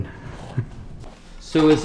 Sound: laughs

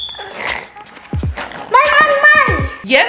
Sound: kid snoring

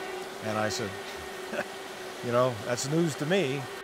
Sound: chuckles

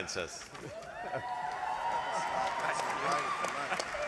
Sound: applause

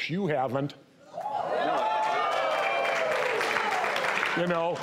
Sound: audience woos

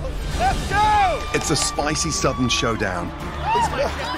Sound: laughing

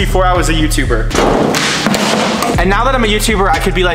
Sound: metal thumping; metal clanging

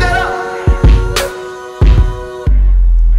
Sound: beatbox

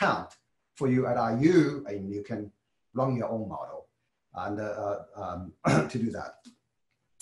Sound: cough

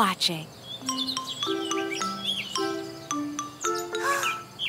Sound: birds chirping

